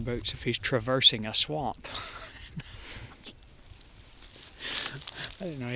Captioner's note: laugh